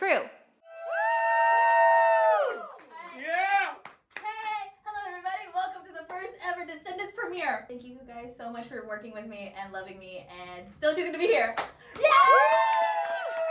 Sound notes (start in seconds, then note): 0.6 cheers